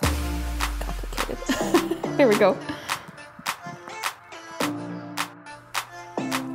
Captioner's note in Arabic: ضحكات خافتة